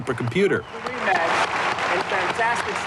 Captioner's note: whistling and applause